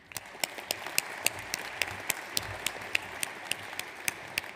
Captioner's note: audience applauds